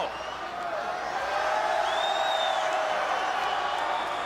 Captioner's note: crowd cheers